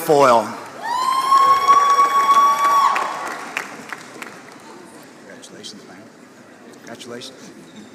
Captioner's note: applause